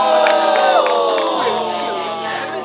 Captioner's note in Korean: 박수